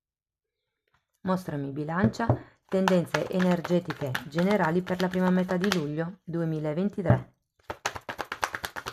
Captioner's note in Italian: Applauso